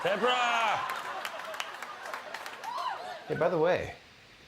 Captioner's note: audience laughter and clapping